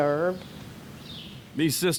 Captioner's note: birds chirping